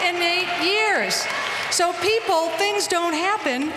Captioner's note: applause